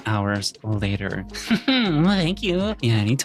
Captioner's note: laughing